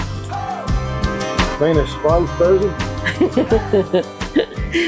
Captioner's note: laughter